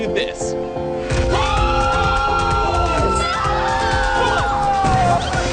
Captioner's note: screaming